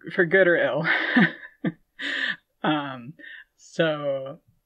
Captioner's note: laughing